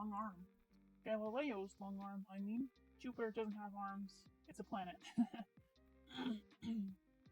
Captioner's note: clears throat